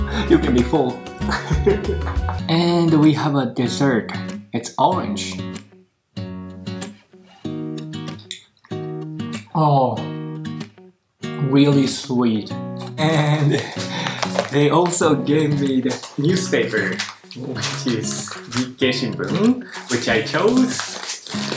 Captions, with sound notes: You can be full. [LAUGHS] And we have a dessert. It's orange. Oooh! Really sweet! And... They also gave me the newspaper. Which is Nikkei Shimbun, which I chose.